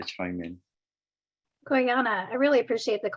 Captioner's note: non-english